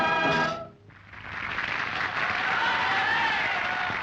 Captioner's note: applause and cheers